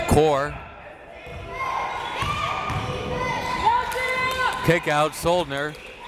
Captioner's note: crowd members shouting